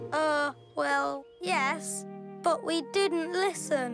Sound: none

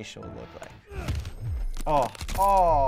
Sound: grunting; bones cracking

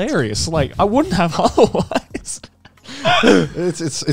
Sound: chuckling

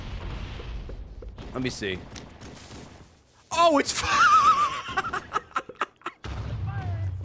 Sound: laughs

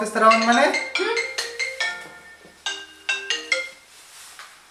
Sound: phone rings

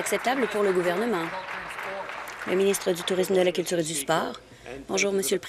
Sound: applause

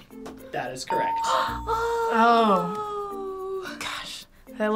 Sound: gasping

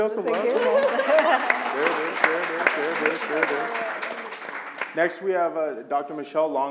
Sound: laugh; applause

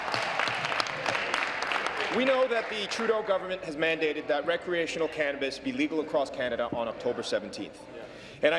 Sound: applause

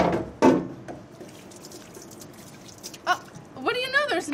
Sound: water running

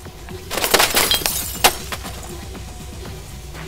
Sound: crashing glass

